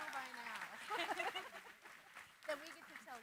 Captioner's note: laughter